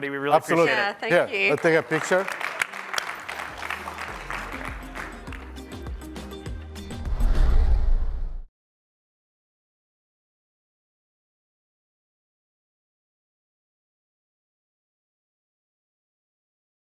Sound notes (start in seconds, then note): 2.3 applause